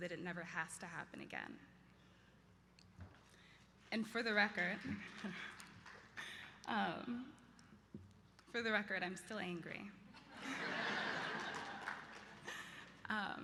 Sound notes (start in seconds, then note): 4.8 light applause; 10.2 laughter